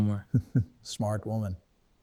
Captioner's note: Man in White laughing